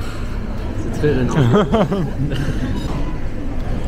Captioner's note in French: rires